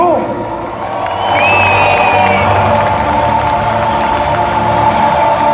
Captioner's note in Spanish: aplausos